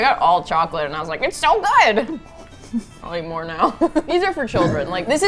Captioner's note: laughs; cheerfully